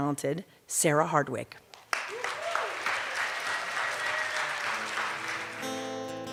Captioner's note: cheers and applause